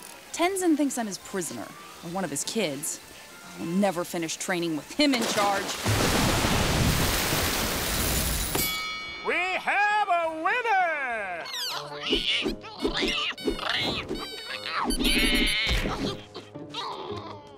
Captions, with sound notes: Tenzin thinks I'm his prisoner or one of his kids. I'll never finish training with him in charge. [dinging] We have a winner! [squeaking]